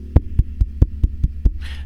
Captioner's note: tapping obtusely